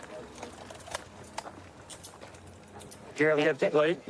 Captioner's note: handcuffs clicking